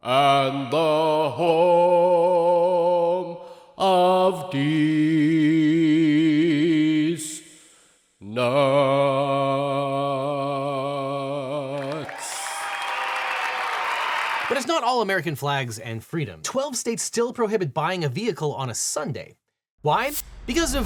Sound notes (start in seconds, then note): 11.7 audience applauding; 11.7 audience cheering